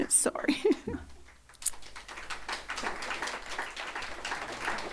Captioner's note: audience applauding